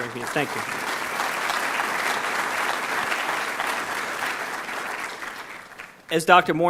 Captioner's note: audience clapping